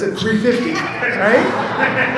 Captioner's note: audience laughs